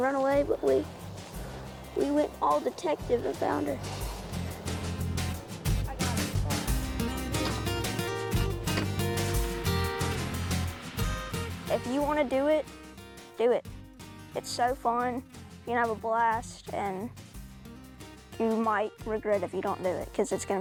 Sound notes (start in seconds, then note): 8.7 door clicks shut; 10.3 engine rumbles